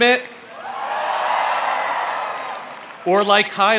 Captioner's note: crowd cheers